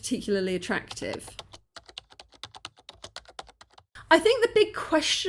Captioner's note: keyboard typing